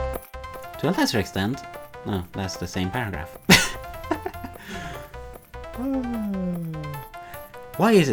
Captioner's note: laughs